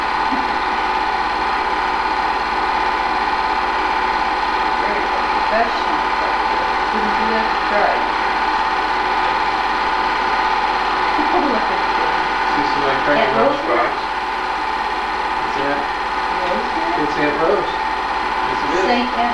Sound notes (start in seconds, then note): 0.3 laughing; 11.1 laughing